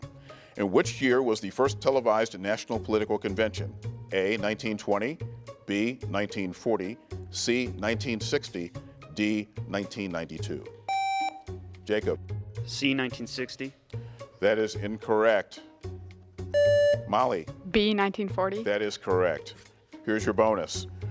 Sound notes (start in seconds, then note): 10.9 buzzer beeps; 16.5 buzzer beeps